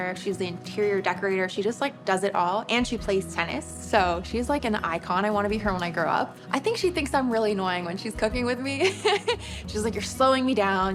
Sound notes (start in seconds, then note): 8.9 laughs